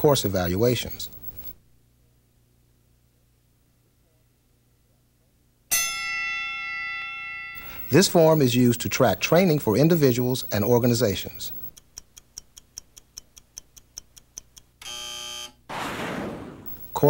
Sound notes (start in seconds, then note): 5.7 bell rings; 14.8 buzzer